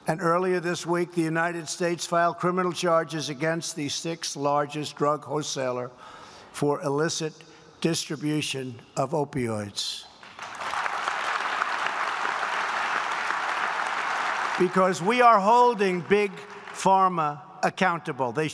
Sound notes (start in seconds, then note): 10.2 applause